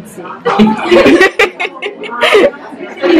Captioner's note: audience laughter